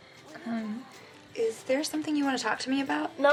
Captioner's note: sniggers